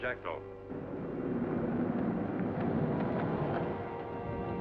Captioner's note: car rumbling